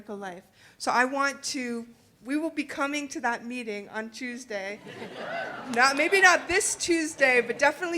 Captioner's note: audience laughing